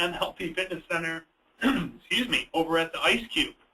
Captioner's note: clears throat